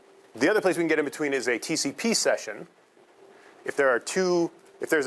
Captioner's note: none